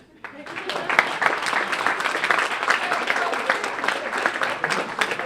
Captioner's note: applause